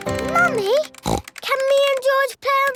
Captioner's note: snorts